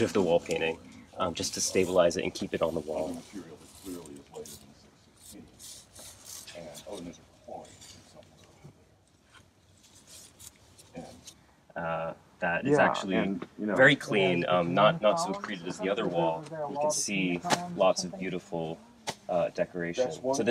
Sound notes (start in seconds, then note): 5.1 tools scratching